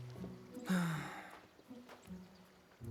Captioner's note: sigh